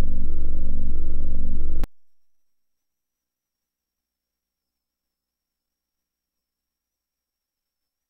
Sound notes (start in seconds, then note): 2.8 silence